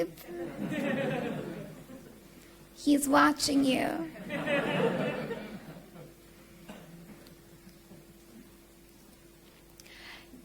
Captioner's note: laughter; laughter